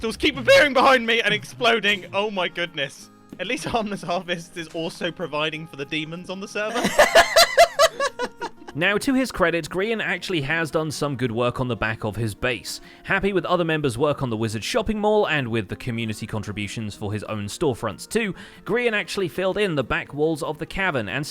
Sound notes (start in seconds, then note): 6.7 hysterical laughter